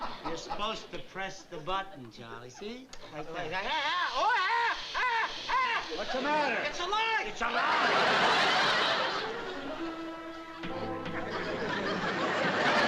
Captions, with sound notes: You're supposed to press the button, Charley. See? [SCREAMING] What's the matter? - It's alive. It's alive?